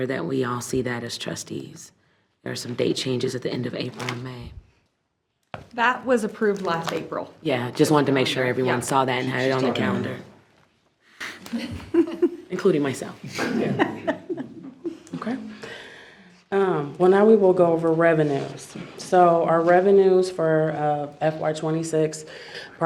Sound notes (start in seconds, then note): 13.3 board laughs